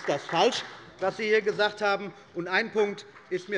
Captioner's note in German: Beifall bei Abgeordneten der CDU und des BÜNDNISSES 90/DIE GRÜNEN